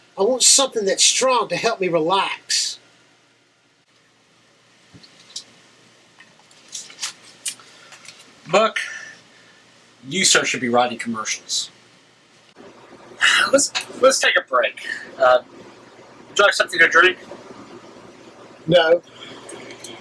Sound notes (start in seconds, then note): 6.2 notepad rustling; 13.2 sighs